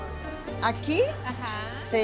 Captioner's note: speaking Spanish